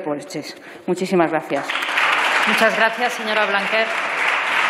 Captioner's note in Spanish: Aplausos